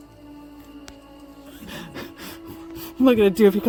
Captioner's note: eerie music; heavy breathing